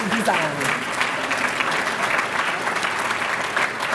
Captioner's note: applause